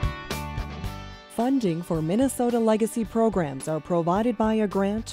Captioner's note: voiceover